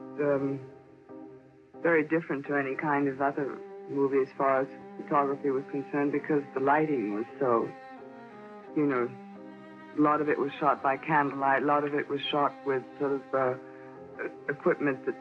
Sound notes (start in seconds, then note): none